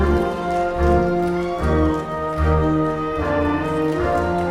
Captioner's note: audience clapping